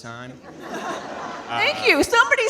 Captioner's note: audience laughing